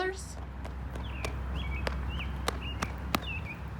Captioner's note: child running